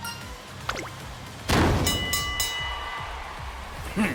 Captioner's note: thwack*!!!!